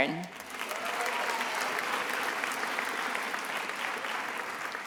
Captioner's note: attendees applauding